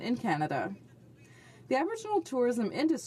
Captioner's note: speaking French